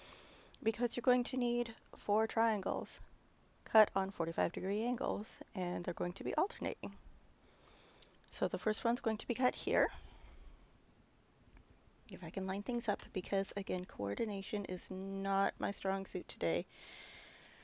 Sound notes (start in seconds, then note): none